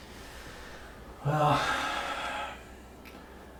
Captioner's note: big sigh